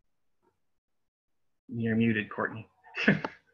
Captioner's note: laughter